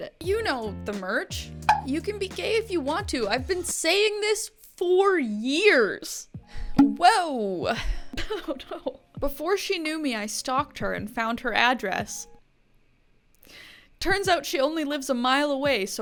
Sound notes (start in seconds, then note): 8.0 laughing